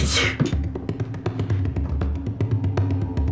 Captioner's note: sneezes